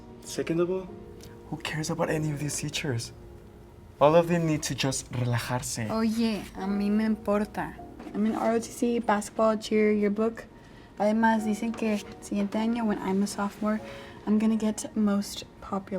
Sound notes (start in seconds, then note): 6.2 spanish; 10.2 speaking spanish